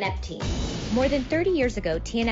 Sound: sound banging

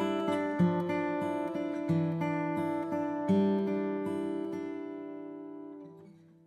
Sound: none

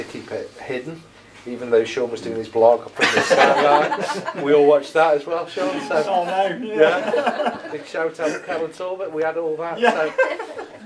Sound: laughter

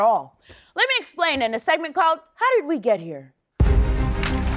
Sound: applause

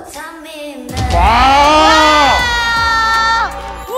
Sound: making a cheering sound

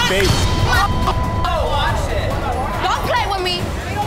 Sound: cast members shouting

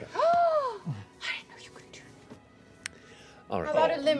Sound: gasp

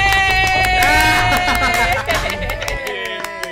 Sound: claps; laugh

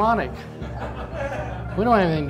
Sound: audience laughing

